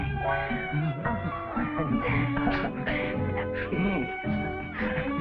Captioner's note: Elizabeth giggling